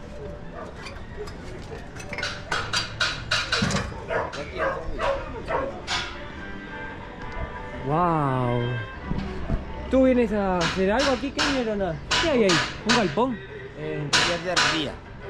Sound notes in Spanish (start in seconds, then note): none